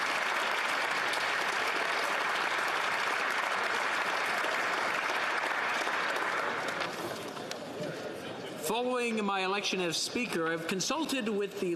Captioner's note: applause